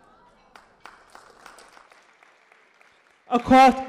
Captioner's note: audience applause